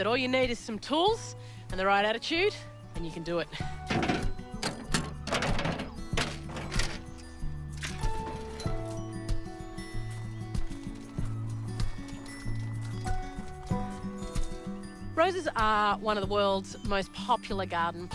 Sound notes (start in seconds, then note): 3.8 tools clatter; 4.1 gentle music continues